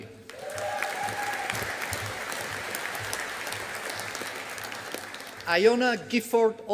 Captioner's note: audience applauding